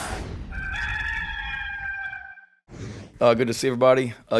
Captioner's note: rooster crows